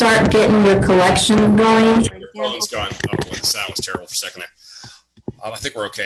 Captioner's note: audio malfunction